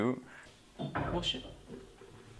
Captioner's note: confused